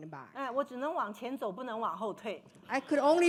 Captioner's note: speaking Mandarin